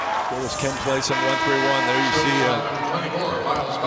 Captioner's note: horn blasts